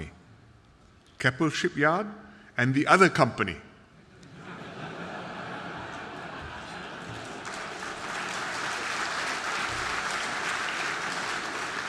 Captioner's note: audience laughter and applause